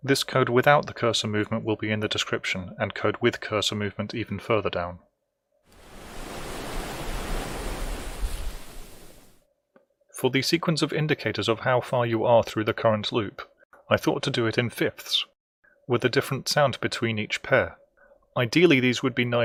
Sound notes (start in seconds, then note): 5.7 wave crashes